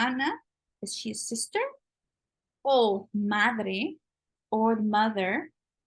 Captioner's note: spanish